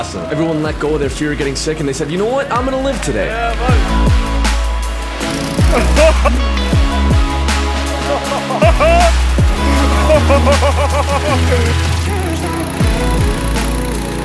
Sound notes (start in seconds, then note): 4.3 uplifting dance music; 9.5 jolly laughter; 12.5 music fades out